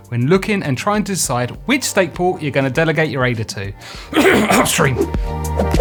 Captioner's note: cough